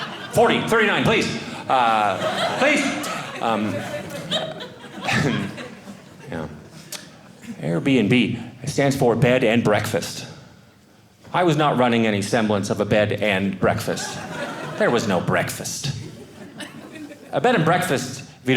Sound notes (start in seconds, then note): 3.0 audience laughing